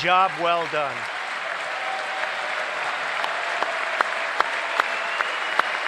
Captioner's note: applause